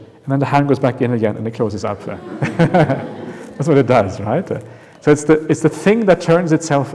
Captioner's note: laughter